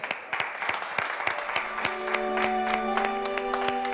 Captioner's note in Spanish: Aplausos